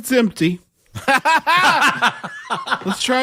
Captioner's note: laugh